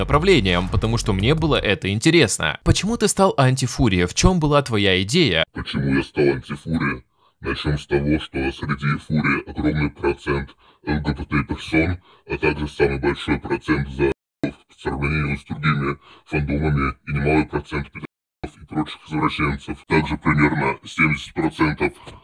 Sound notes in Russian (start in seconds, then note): 5.3 голос изменен по просьбе интервьюера